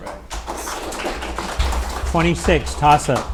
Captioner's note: audience applauding